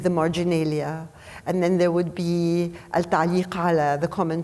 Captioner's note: speaking foreign language